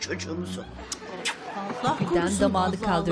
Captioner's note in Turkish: Öpücük sesi; Masaya vurma sesi